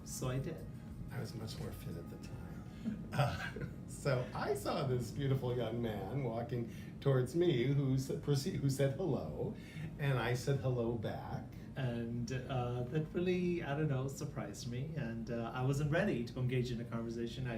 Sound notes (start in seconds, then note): 3.2 laughter